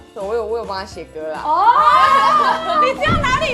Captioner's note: ohh